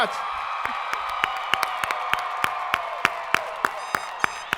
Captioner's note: audience applauding